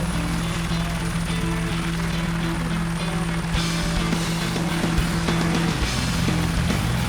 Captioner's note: helicopter engine whirring; upbeat music